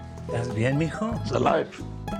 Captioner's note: in Spanish